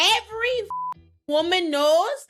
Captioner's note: beep